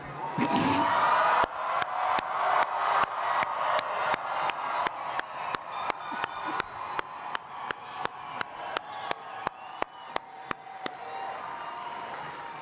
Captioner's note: applause